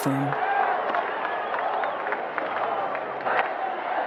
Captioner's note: people cheering